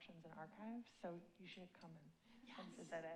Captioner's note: none